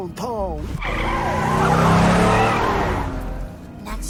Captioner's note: tires screech